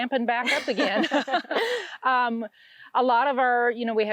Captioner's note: both laugh